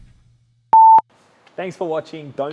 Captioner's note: beep